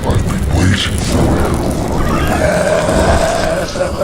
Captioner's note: growling